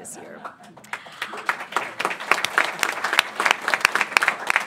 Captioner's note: applause